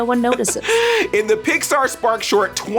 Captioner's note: laughs